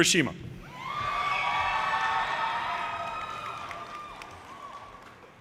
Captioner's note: audience cheers and applause